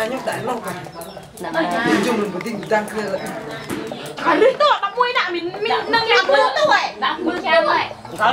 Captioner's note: chattering